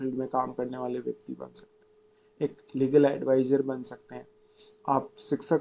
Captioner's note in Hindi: नाक से की जाने वाली आवाज़